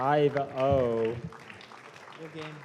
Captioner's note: applause